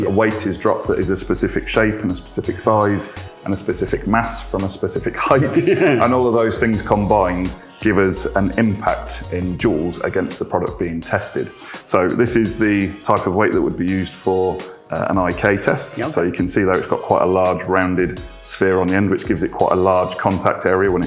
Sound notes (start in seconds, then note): 5.2 chuckles